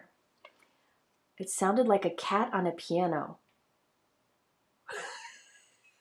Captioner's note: laughs